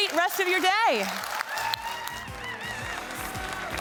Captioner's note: attendees cheering and clapping